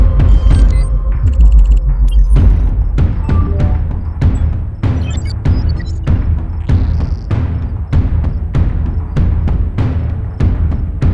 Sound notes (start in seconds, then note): 1.1 dramatic music; 1.1 electronics beep